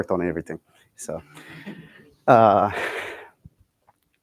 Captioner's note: laughter